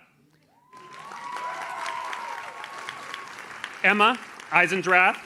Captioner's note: audience cheers